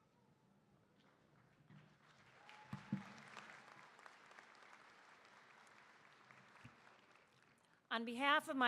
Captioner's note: applause